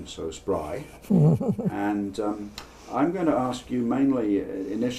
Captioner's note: laugh